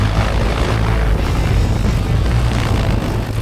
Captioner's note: plane engine roaring